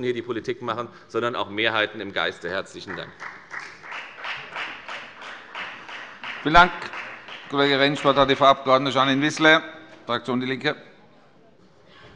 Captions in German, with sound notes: hier die Politik machen, sondern auch Mehrheiten im Geiste. - Herzlichen Dank. [Beifall bei der FDP] Vielen Dank, Herr Kollege Rentsch. - Das Wort hat Frau Abg. Janine Wissler für die Fraktion DIE LINKE.